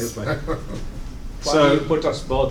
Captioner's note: laughter